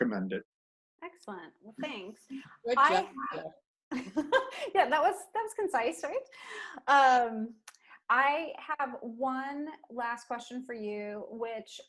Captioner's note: laughter